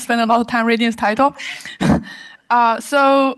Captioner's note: laughter